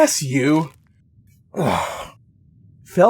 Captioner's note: sighs